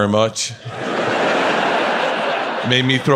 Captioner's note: audience laughs